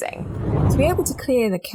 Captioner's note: air whooshing